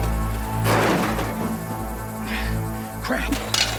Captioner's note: metal clanging